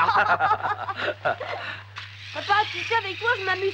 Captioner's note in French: des rires